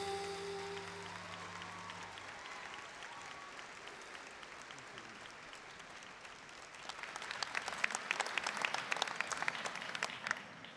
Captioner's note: applause